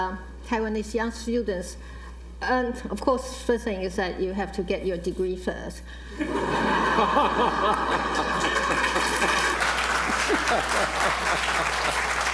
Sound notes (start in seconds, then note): 6.1 laughter; 6.9 applause